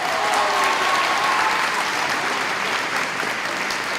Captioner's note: applause